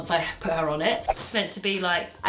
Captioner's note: screen whooshing